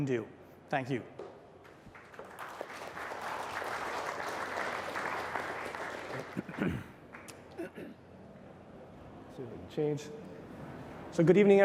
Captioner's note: applause